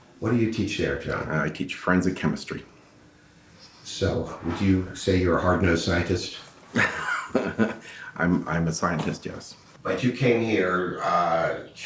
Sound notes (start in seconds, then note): 6.7 laughing